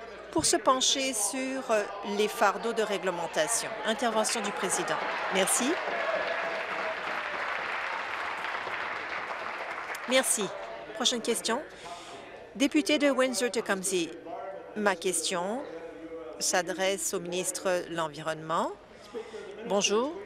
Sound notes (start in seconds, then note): 10.7 applause